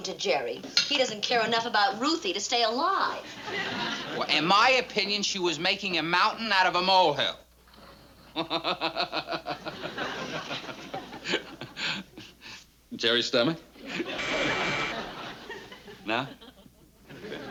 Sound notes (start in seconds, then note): 8.2 chuckling; 14.1 buzzer rings